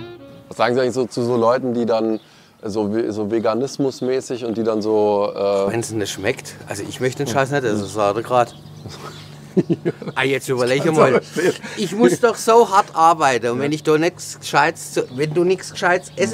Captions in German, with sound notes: Was sagen Sie eigentlich zu so Leuten, die dann so veganismusmäßig und die dann so, äh ... (Lachen)